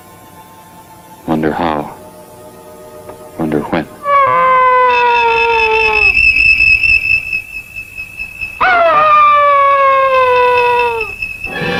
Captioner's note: dog howling